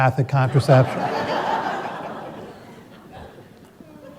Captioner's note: laughter